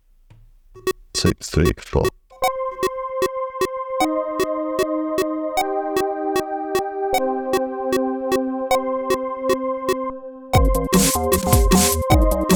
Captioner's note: beeping